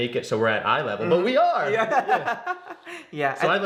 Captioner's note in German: lacht